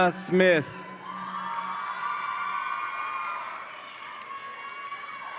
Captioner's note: audience applauds and cheers